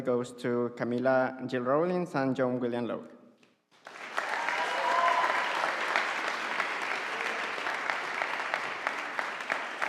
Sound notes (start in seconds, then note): 3.8 audience applauding